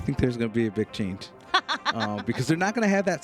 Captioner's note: laughs